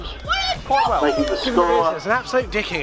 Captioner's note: shouting